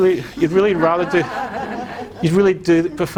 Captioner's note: crowd laughing